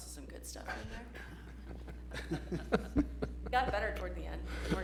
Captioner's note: board members laugh softly